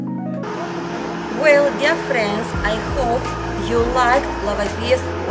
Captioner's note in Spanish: Street Noise